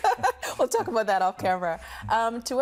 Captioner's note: laughing